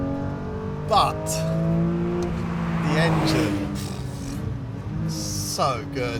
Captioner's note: exhales